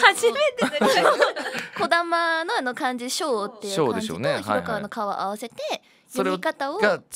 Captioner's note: echo